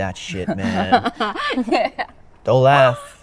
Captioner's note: Amy laughs